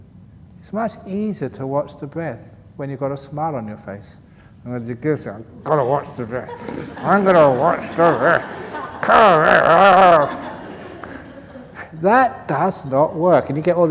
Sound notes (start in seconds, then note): 4.7 laughs